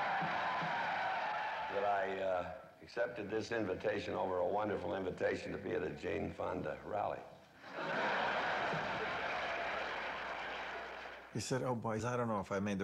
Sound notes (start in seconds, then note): 0.0 laughter and applause; 7.6 laughter